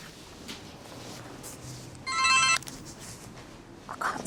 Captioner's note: phone rings